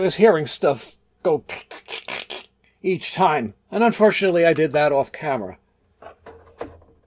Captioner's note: crackling noises with mouth